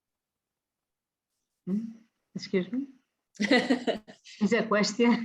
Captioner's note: laughs